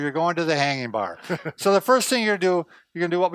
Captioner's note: laughing